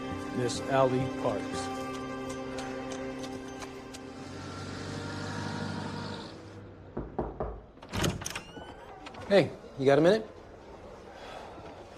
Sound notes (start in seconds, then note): 3.9 engine rumbles; 6.9 knocking